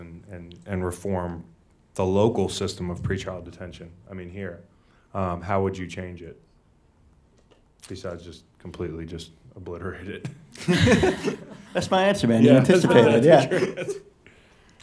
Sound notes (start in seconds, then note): 10.6 laughing